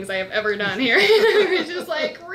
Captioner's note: laughs